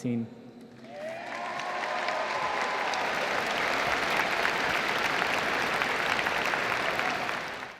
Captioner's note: applause